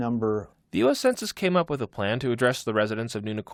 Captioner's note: voice-over